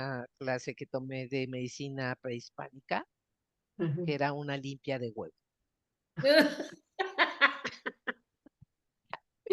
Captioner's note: laughs